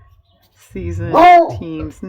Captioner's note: dog barks